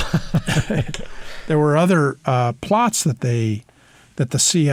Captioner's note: laughter